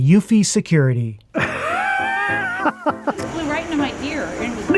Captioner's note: laughs